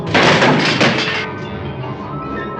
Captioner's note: crash